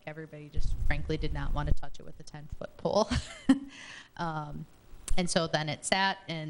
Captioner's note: chuckles